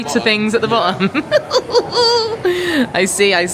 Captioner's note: laughs